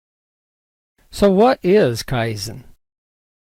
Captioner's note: voiceover